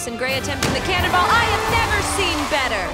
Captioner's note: splash; cheers